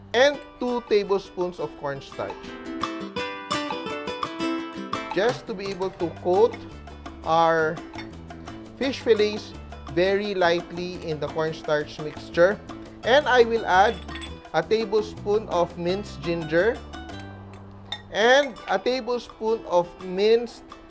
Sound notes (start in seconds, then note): 7.9 clang; 13.9 clink; 17.9 clang